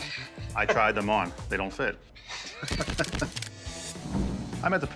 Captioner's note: laughs